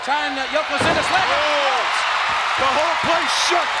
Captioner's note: audience cheers